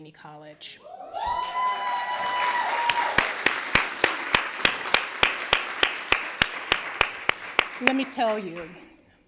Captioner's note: applause